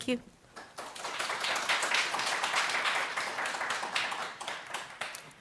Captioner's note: audience applauds